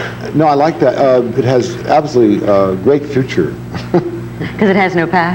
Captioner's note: laughs